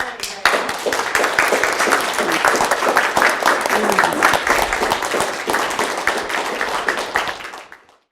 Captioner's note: applause